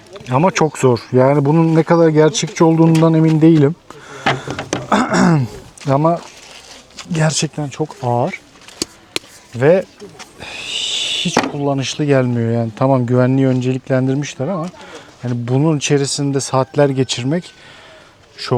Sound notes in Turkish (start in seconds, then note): 4.8 boğazını temizler